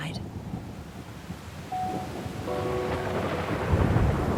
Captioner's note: thunderstorm noises; sad music playing